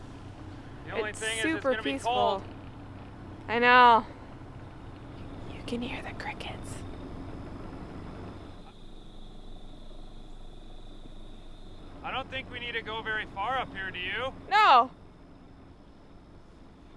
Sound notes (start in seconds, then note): 8.3 whispers; 9.6 chirping